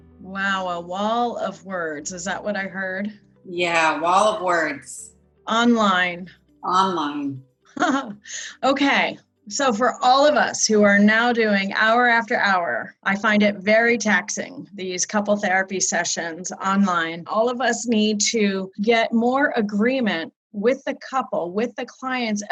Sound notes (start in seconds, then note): 7.8 chuckles